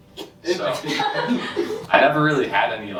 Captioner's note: laughter